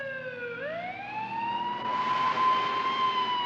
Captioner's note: police siren wailing